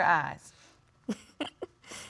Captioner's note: chuckling